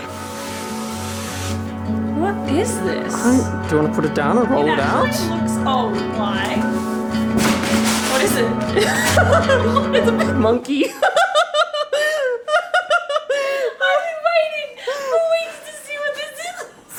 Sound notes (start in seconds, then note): 0.0 somber music; 8.7 laughter